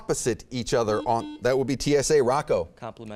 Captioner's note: beeping